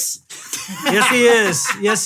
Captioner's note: laughing